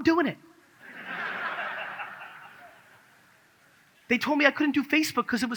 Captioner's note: audience laughs